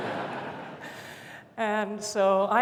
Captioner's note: laughter